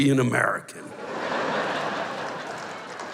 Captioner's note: laughter; applause